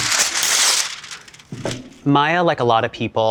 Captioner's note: paper tearing